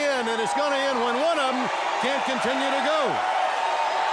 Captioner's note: crowd cheering